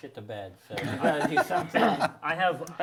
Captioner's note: all chattering